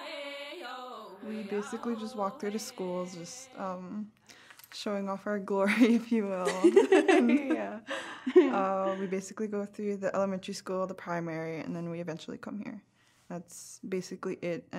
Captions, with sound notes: — We basically just walk through the schools, showing off our “glory” if you will. [laughing] Well, we basically go through the Elementary School, the Primary, and then we eventually come here. That’s basically it, and